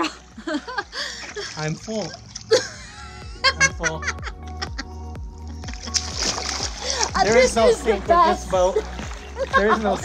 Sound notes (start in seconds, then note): 2.4 laughing